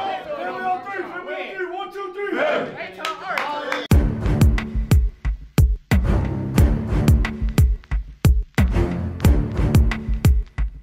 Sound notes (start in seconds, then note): 2.9 cheering and applauding